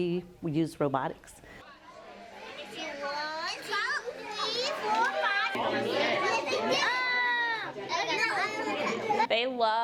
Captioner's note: classroom chatter